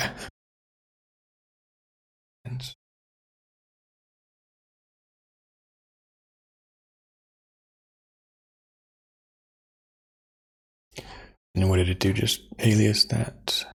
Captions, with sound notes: (Blank Audio) And what did it do? Just alias that.